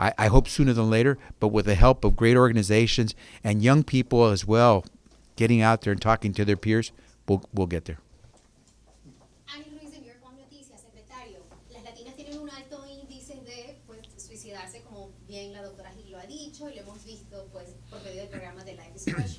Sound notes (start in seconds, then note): 9.1 speaking Spanish